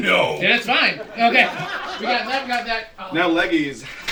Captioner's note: laughter